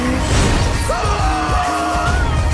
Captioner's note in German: schreit